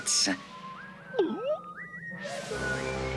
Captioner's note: gulp